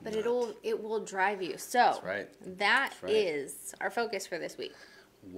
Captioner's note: none